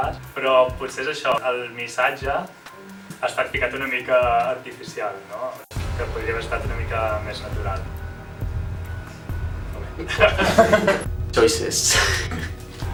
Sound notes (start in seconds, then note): 7.8 tense music; 9.8 laughs